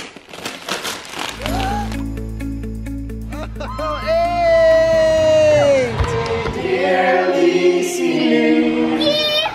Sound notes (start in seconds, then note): 1.3 gasps